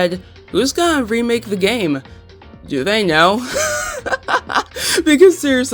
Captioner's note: laughs